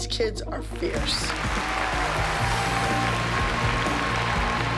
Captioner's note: cheering and applause